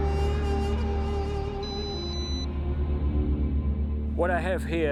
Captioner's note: gas monitor beeps